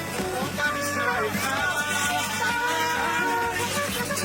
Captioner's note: crowds greeting arrivals